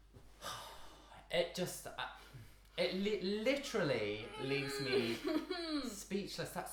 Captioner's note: sighing